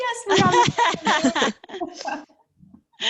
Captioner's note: laughing